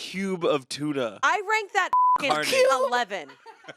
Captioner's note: beep